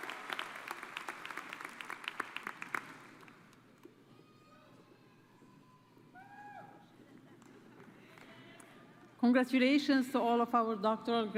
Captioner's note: applause